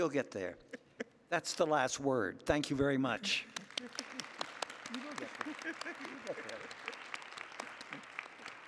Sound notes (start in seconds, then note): 3.3 applause